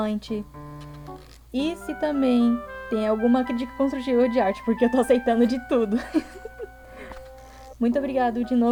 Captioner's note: giggles